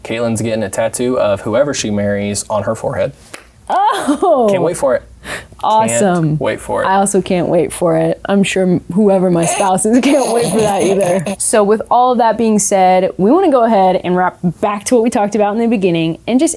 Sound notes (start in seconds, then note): 9.8 laughs